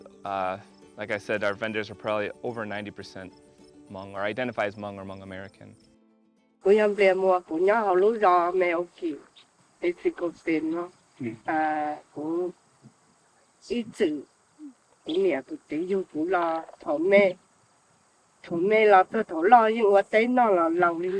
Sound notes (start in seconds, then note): 10.4 speaking foreign language